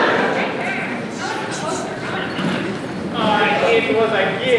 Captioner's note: villager Noises